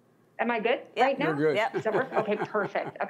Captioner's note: laughs